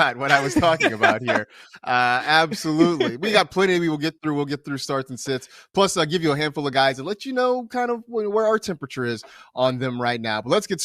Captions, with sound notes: [LAUGHTER] ABSOLUTELY. PLENTY TO GET THROUGH, PLUS A HANDFUL OF GUYS THAT -- LET'S